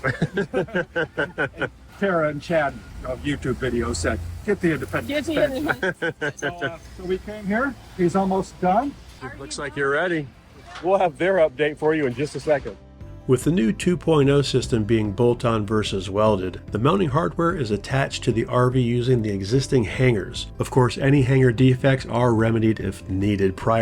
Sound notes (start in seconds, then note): 0.0 everyone laughs; 5.6 laughs